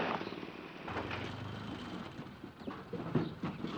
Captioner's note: engine Stops